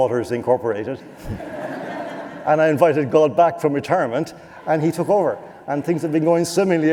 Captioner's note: laughter